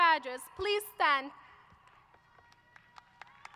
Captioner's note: applause